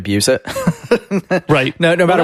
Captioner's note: laughs